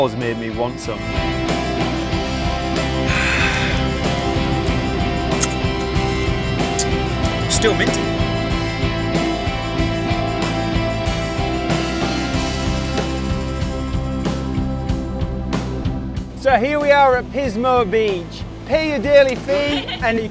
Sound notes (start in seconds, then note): 2.9 sighing; 5.2 smacking lips; 8.6 upbeat music; 19.2 laughing